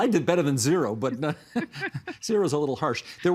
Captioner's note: laughter